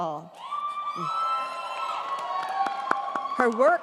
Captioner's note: crowd cheering